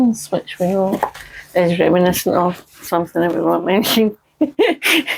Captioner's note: laughter